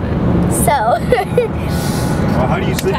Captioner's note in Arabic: يضحك